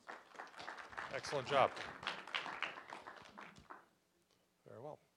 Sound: applause

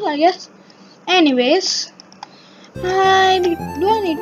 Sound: gasp

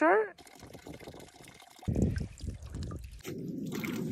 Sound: water burbling

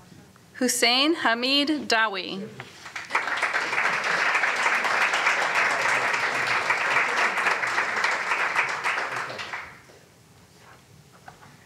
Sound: applause

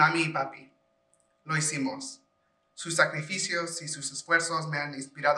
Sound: speaking foreign language

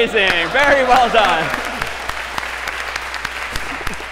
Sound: applause

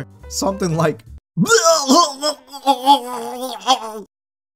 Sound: dying noises

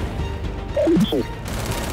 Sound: gunfire

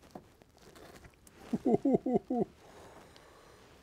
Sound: laughs

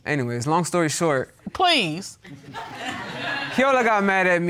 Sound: audience laughs

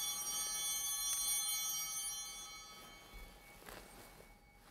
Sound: bell ringing; bell continues ringing

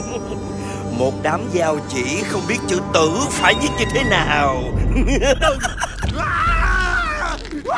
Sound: maniacal laugh

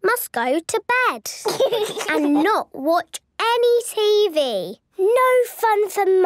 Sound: laugh

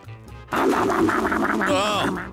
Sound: munches loudly

